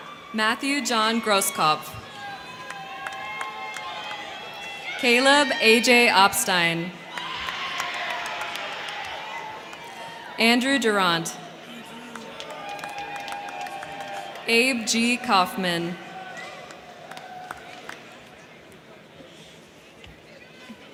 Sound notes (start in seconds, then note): 0.0 crowd cheering; 0.0 crowd clapping; 2.0 crowd clapping; 2.0 crowd cheering; 6.9 crowd cheering; 7.0 crowd clapping; 11.5 crowd clapping; 12.0 crowd cheering; 15.8 crowd cheering; 16.1 crowd clapping